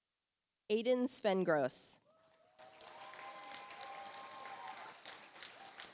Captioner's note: audience applauds